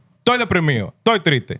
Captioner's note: non-english Speech